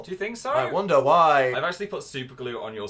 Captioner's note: sarcastically